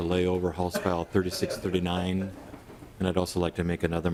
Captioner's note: laughing